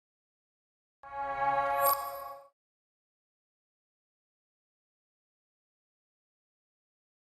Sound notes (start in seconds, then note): 1.6 chime